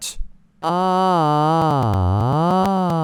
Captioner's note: weird voicebox noises